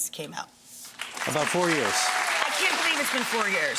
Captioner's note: audience applause